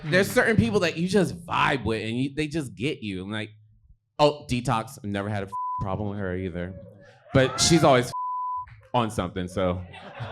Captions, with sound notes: There's certain people that you just vibe with, and they just get you. And like, oh, Detox. Never had a (beep) problem with her either. But she's always (beep) on something, so.